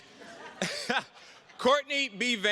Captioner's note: attendees laughing